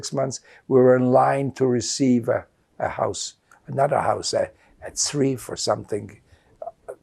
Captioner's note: hebrew